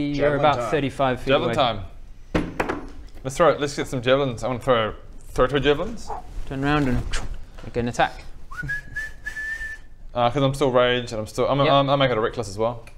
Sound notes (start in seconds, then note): 8.4 overconfident whistling